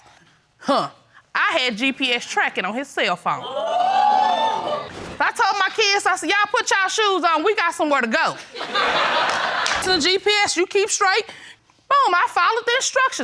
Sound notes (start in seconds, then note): 3.5 audience exclaims; 8.5 audience laughs